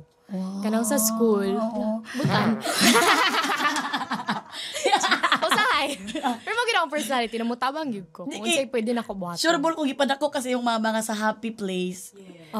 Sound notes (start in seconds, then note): 2.2 both laugh